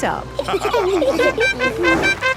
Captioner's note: all laughing; horn tooting